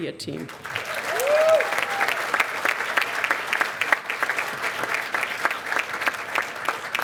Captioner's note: cheers and applause